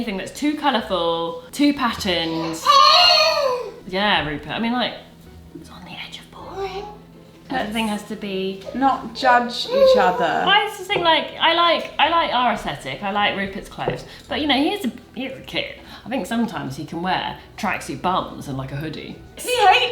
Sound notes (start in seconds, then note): 2.8 exclaims